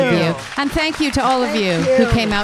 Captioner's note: audience clapping